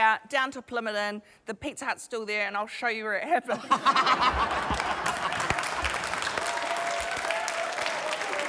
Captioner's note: laughter; cheering, applause